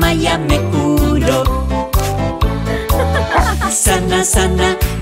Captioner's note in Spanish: Risas y música